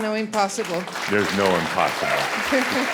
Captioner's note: audience applause